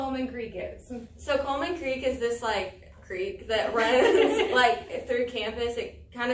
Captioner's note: all laugh